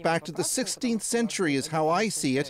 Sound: speaking russian

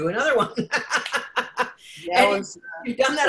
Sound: laughs

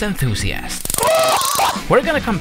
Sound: taser buzzing

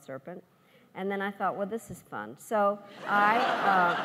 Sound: laughs

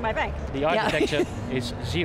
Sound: laughs

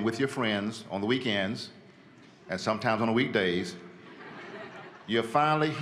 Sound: laughter

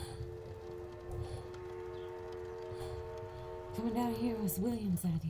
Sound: whistle blowing distantly

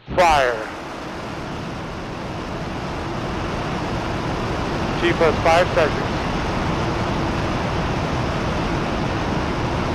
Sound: engine whirring

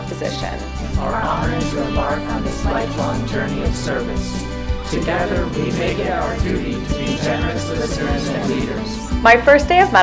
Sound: reciting oath

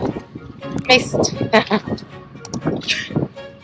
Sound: laughs

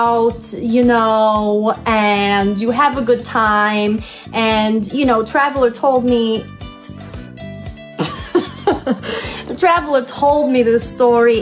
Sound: laughs

